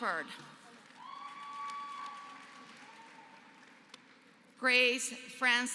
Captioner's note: applause